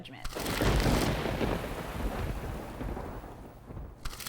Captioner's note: thunderstorm crashes